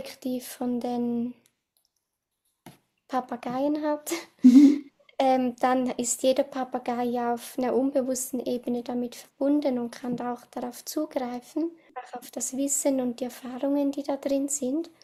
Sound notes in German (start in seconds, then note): 3.9 schnauben; 4.4 gelächter